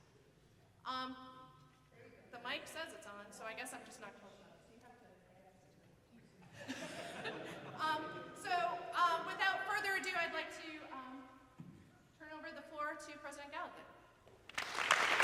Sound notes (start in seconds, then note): 5.5 faintly speaking; 6.6 audience laughing